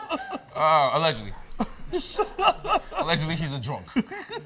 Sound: laughs

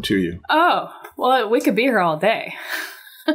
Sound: chuckles

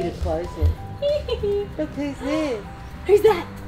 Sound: giggling

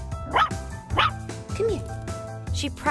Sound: barking

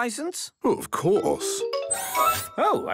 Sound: mechanical arm whirring

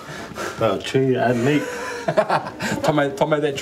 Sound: laughs

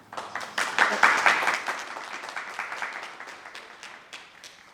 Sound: attendees applauding

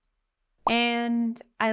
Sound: text overlay blooping

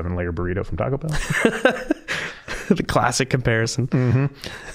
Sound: laughing

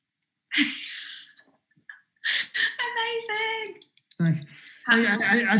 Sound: laughing

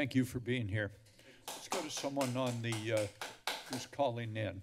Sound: applause

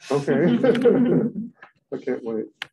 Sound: laughter

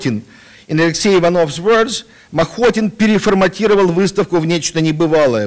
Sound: non-english speech

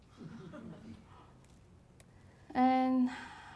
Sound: laughing

